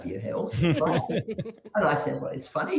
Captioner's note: chuckling